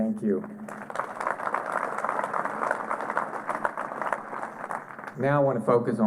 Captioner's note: applause